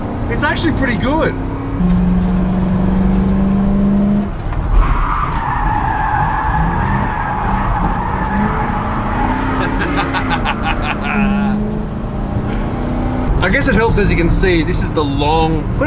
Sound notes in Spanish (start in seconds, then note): 9.4 risa